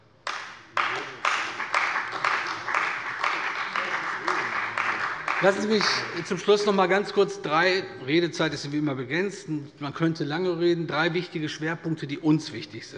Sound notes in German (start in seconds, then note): 0.2 Beifall bei der CDU und dem BÜNDNIS 90/DIE GRÜNEN